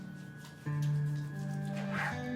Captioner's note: hands rubbing; zipper clattering